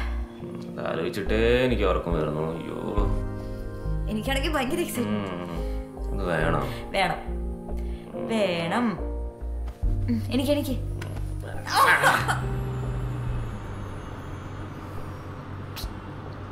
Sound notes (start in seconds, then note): 11.6 Maanu shrieks